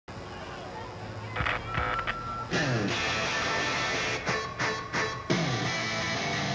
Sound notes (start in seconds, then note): 1.3 mic feedback